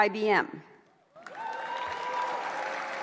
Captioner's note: applause